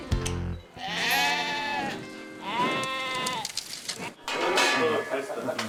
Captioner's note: cows moo